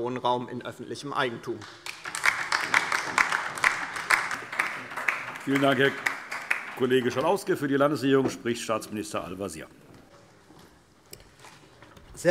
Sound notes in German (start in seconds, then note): 1.5 Beifall DIE LINKE